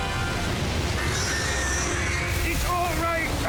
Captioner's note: squealing